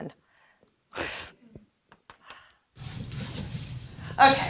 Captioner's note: laughing